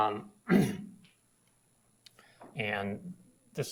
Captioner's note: ahems